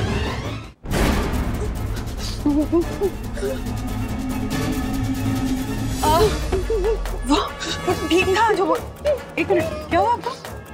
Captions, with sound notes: [Jyoti sobs] Uh, did I speak well... Hold on, what's wrong?